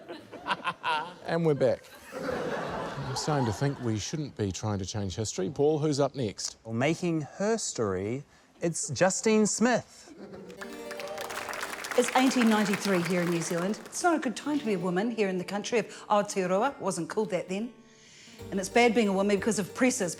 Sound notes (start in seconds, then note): 2.5 laughter